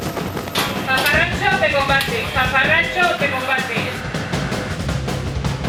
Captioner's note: speaking in foreign language